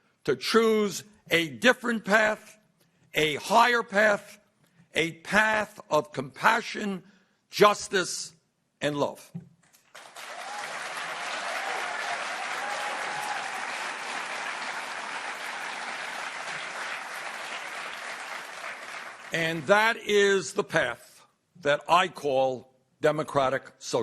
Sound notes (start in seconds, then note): 9.8 applause